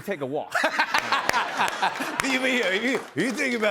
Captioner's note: laughter